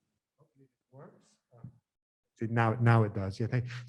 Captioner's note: speaking faintly